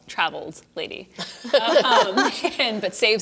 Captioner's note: laughter